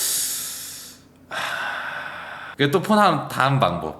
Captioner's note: sighs